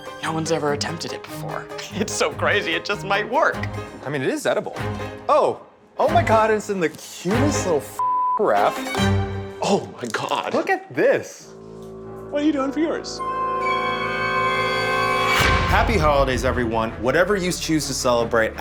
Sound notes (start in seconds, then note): 8.0 beeps; 11.7 tense music; 14.1 eerie music